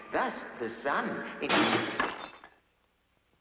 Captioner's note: crash